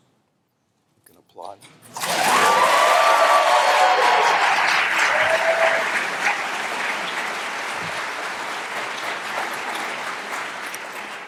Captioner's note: applause